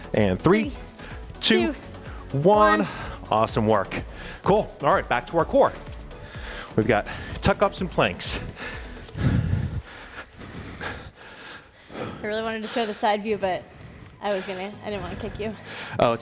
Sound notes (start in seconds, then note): 8.5 panting